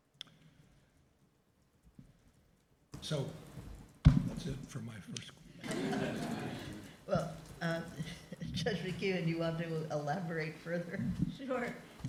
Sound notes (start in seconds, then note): 5.6 laughter